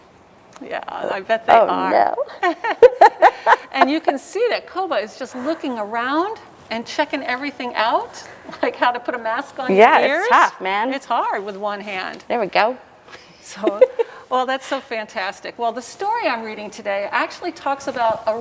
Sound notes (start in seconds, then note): 2.4 laughter; 13.6 laughter